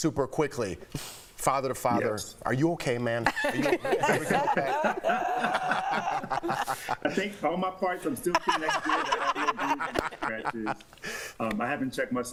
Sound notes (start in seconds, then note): 4.6 laughter